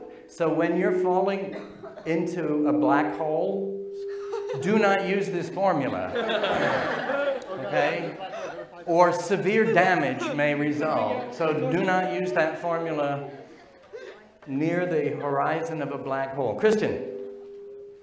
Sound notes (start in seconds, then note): 6.0 laughing